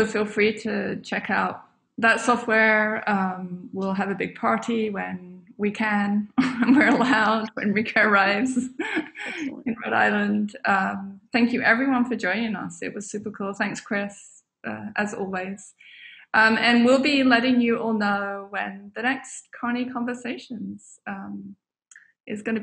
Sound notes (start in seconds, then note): 8.4 laughs